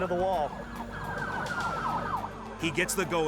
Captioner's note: sirens blaring